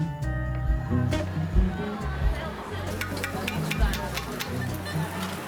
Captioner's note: din of crowd, utensil tapping